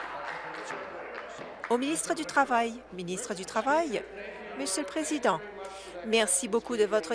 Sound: applause

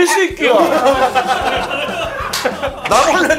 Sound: hahahaha

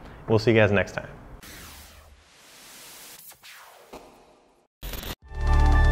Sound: electronic whirring; chill music

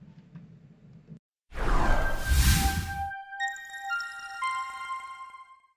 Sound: sound effect

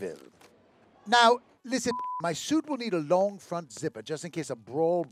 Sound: beeping

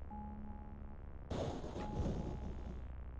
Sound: thunder strikes

